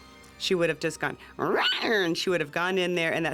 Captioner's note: meows